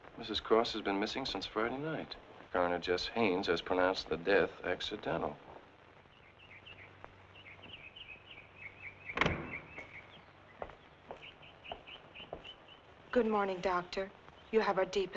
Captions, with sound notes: Mrs. Cross has been missing since Friday night. Coroner Jess Haines has pronounced the death accidental." (birds chirping) (door slamming) (footsteps thumping) - Good morning, Doctor.